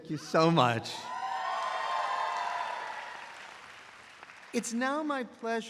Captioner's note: audience applauds